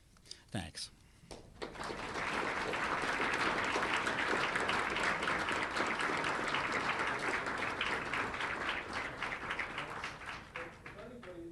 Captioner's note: applause